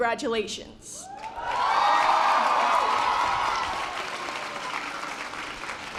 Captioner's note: members of the audience cheering